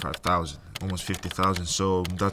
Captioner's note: keyboard clicking